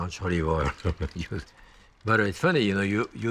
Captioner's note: chuckles